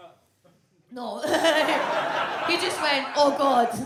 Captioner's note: audience laughs; laughs